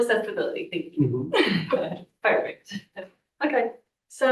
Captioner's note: laughs